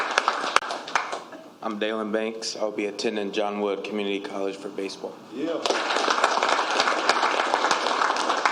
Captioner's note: applause